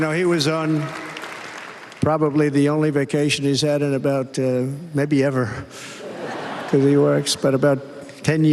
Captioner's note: applause